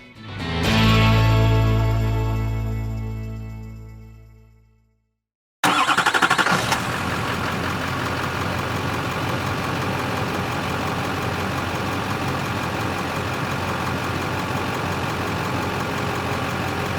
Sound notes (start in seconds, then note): 0.0 bright Music; 5.7 car Engine Revving